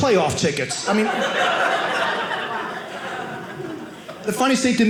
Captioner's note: audience laughing